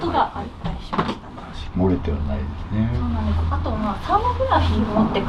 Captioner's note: low groaning